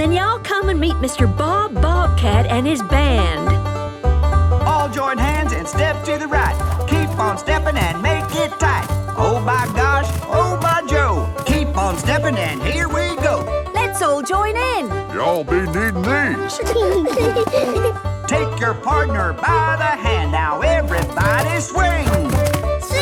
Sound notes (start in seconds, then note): 15.7 laughing